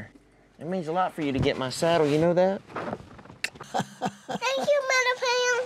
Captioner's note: smooch